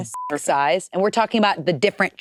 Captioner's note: beep